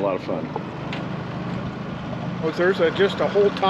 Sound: boat engine idling

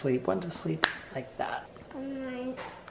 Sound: snaps fingers

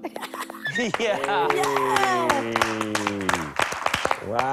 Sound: laughs; clapping

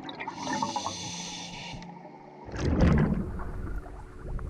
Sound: breathing through diving mask; running water

